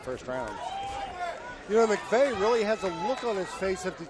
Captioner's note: crowd cheering